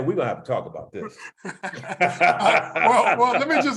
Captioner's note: laugh